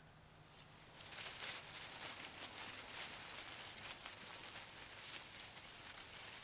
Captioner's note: rustling